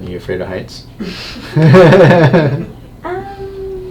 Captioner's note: laughing